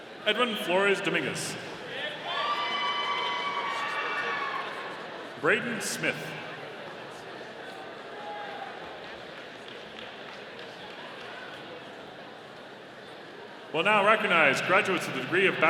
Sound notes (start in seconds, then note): 2.1 audience cheering; 7.5 audience applauding